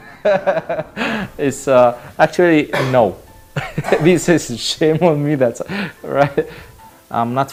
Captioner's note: laughing